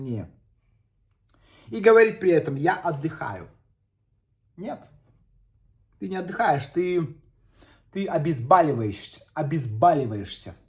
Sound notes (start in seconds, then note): none